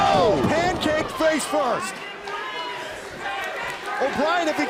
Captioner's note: crowd cheering